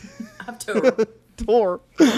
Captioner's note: laughs